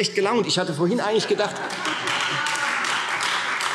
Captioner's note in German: Heiterkeit und Beifall Freie Demokraten - Zurufe